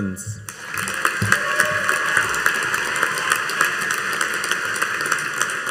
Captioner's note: audience cheering and applauding